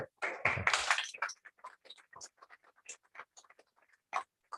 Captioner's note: applause